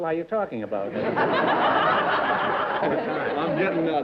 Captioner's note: laughter